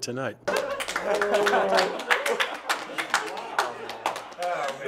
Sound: applause and celebration

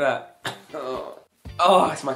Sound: groaning

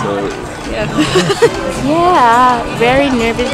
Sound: laughs

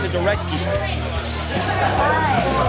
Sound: loud chatter

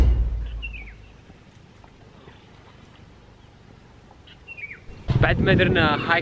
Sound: nature sound

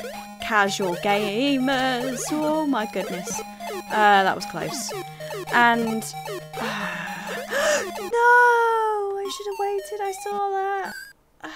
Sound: gasps

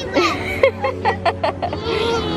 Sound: laughs

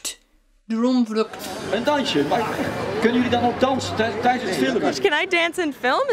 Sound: performers speaking Dutch

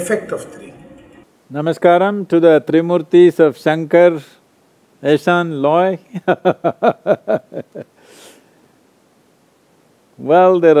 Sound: laughs

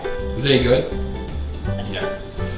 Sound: voiceover

